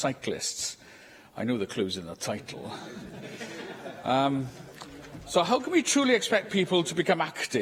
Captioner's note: laughter